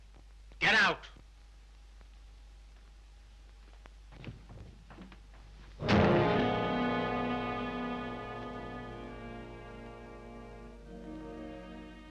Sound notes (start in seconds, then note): 5.4 door slams; 5.8 brooding orchestral music